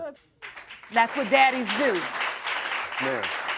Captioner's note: audience applauds